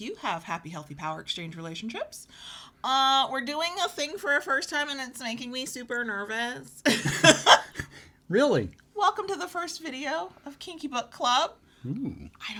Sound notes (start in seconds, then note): 6.8 laughs